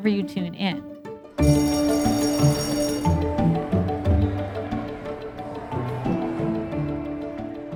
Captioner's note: upbeat music continues; bell ringing